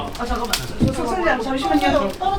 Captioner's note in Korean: 찌지직